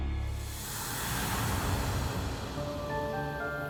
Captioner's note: whooshing air